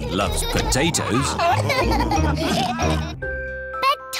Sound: laughter

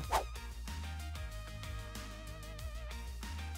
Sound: whooshing

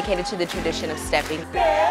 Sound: clapping

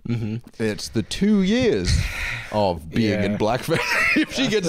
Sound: laughs

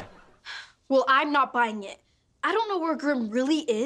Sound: sighs

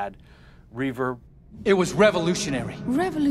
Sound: echoing

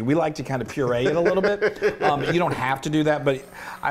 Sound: laugh

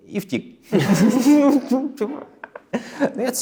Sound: both are giggling

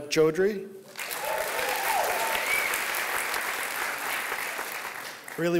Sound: applause

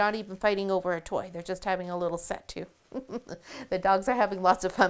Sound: chuckles

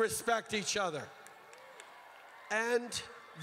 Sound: crowd cheers

